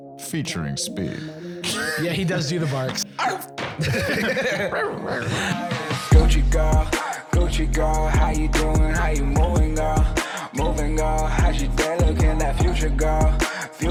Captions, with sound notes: Featuring Speed. Yeah, he does do the barks. (both barking) (outro music)